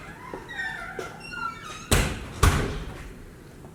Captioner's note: door closing